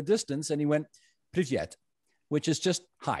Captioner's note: speaking Russian